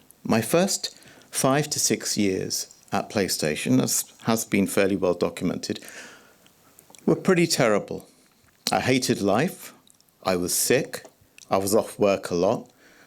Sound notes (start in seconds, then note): 5.8 gasps